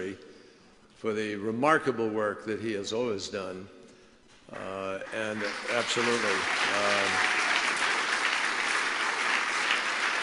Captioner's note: applause